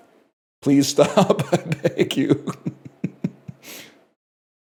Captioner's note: laughs